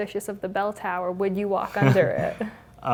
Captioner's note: laugh